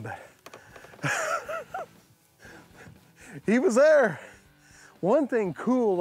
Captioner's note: laughs